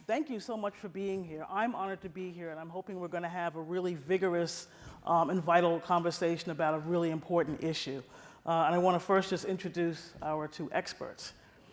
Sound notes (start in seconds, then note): none